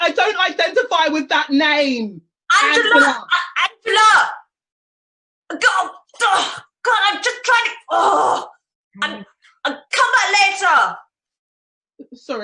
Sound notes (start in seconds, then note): 4.4 shouts from off